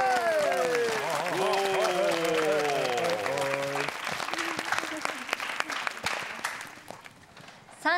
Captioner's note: clapping